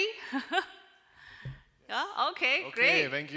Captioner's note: chuckles